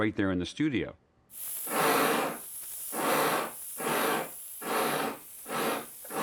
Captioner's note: chuffing